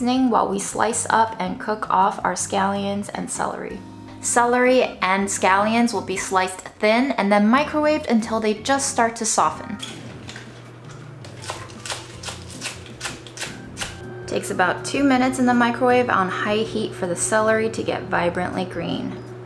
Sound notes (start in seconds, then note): 9.8 upbeat instrumental music; 11.5 celery crunching